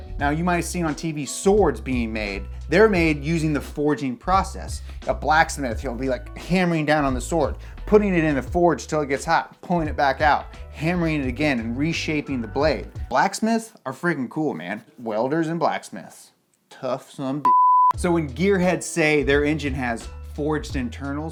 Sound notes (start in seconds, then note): 17.4 beep